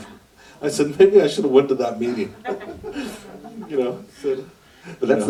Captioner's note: laughter